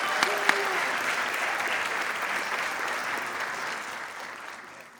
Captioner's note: applause